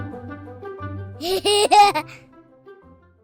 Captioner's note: laughter